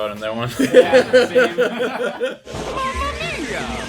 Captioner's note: laughter